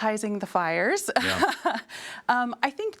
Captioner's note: laughs